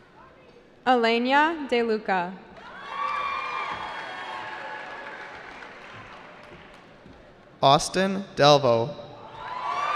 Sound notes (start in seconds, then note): 2.6 cheering; 9.2 cheering